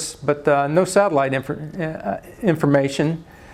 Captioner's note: none